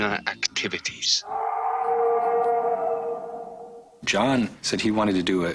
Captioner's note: howling